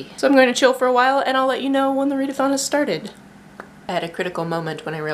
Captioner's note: lip pop